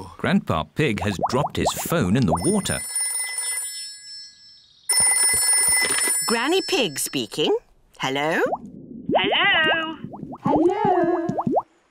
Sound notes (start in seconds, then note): 2.3 phone ringing; 9.1 voice echoes